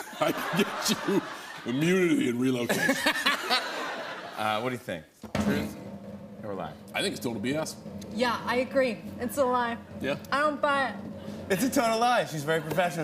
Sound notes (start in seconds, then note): 2.9 laughs